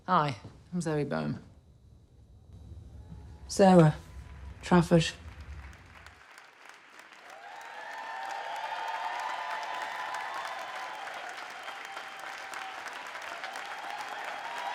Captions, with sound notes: Hi, I'm Zoe Boehm. - Sarah Trafford. [attendees applauding] [attendees cheering]